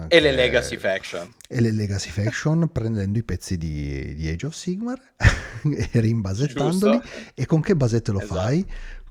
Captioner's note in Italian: risate